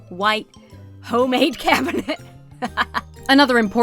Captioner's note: laughs